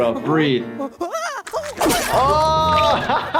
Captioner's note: Nutty whimpering; laughing